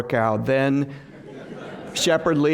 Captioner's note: laughter